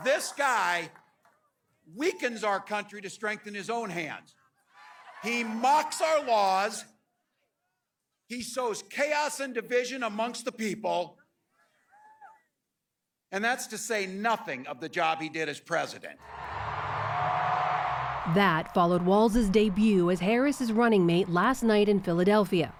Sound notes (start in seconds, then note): 18.4 applause; 18.4 cheering